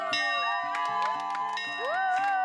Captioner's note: bell ringing; applause